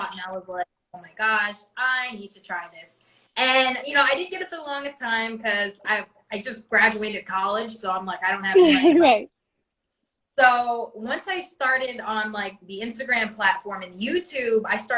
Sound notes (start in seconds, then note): 8.5 chuckles